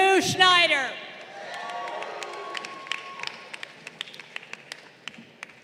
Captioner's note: crowd cheering